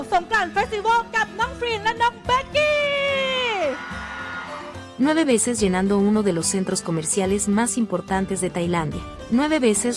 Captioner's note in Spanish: ovación